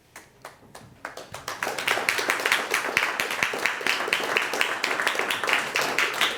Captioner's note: applauding